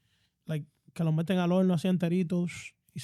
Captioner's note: speaking In Foreign Language